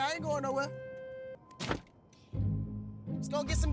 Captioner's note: car door slams